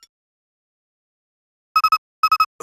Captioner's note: silence